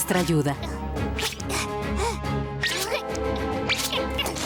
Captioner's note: caterpillar noises